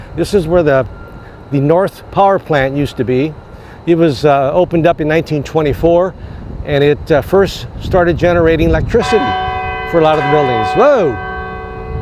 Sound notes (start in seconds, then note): 9.0 bell rings